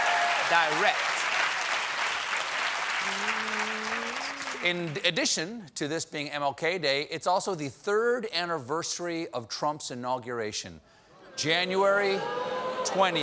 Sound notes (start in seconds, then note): 0.0 cheers and applause